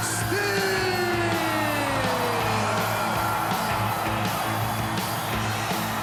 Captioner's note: crowd cheers